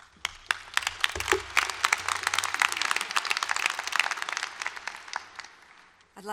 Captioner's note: applause